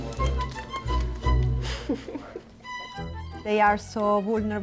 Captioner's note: playful music; giggling